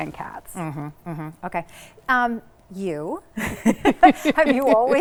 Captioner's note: laughs